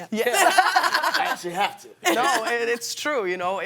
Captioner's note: laughter